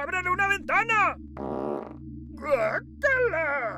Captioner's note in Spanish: Suena otra flatulencia más larga